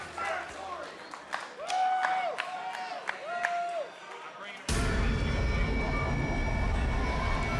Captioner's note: crowd chatter